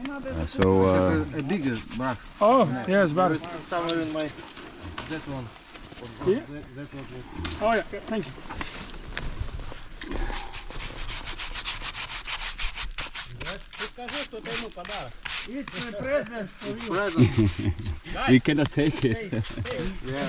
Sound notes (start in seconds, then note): 10.6 brush swooshing; 13.9 group chattering